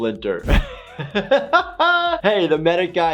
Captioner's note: laughs